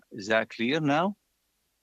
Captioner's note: speaking French